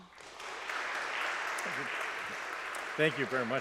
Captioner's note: audience applauds